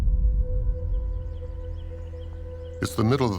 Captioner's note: birds chirping